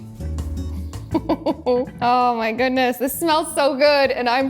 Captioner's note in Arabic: تضحك